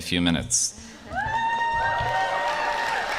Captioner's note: applause